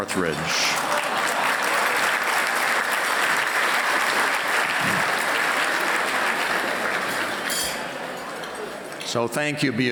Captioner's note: applause